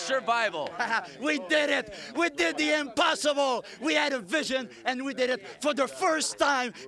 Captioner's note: laugh